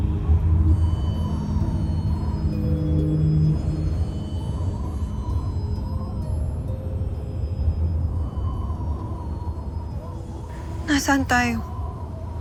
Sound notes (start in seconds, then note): 3.5 wind howling